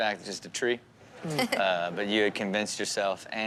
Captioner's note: Chanel giggles